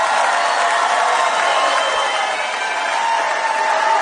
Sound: audience cheering

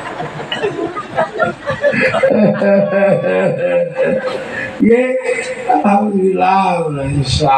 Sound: laughs

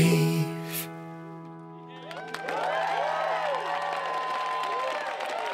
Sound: audience cheering

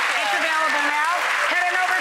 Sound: audience applauds

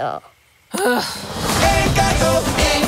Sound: frustrated grunt

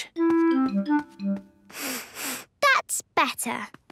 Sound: sniffs

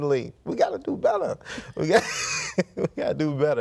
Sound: laughs

